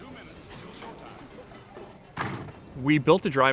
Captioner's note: car doors closing